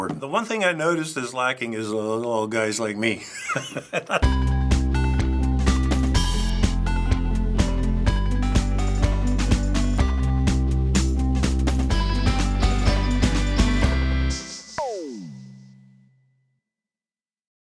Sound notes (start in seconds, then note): 3.2 chuckling; 4.4 upbeat theme music